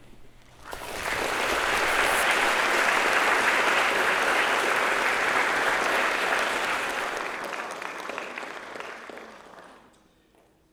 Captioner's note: applause